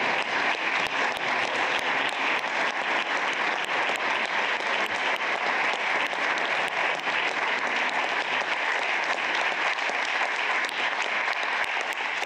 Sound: applause

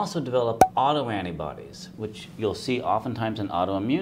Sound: pop

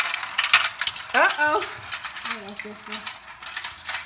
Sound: voiceover

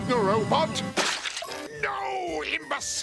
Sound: splat

